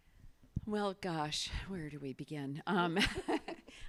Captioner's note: laughs